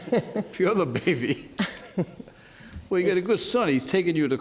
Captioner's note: laughs